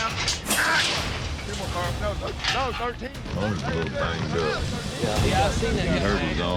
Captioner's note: clanking sound